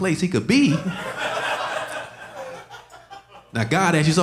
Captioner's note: audience laughing